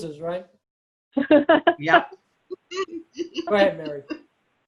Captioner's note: laughs